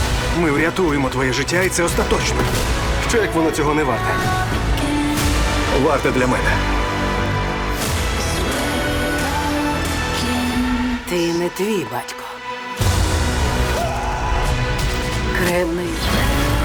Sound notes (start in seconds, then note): 13.7 screaming